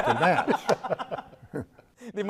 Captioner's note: laughing